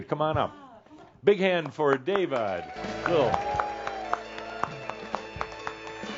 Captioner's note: applause and fanfare music